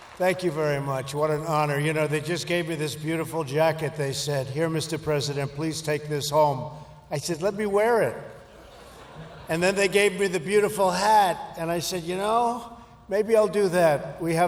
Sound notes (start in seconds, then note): 8.4 laughter